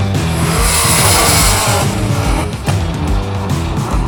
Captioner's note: engine revving